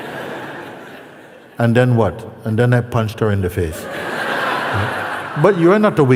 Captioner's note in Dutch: gelach; gelach